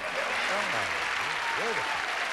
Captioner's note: applause